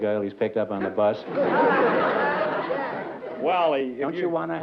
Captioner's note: laughter